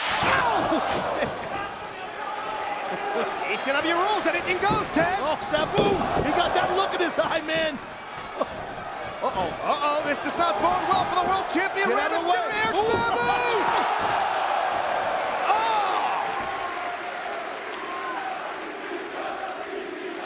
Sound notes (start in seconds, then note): 2.0 chuckling; 9.2 chuckling; 13.7 spectators exclaiming; 16.9 spectators chanting "ECW!"